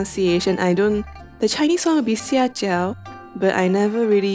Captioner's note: Mandarin